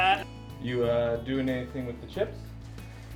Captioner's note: laughing